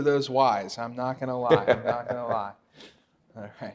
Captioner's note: laughs loudly